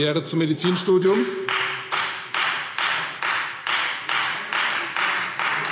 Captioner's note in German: Beifall Freie Demokraten